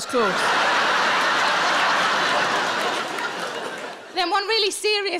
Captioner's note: audience laughing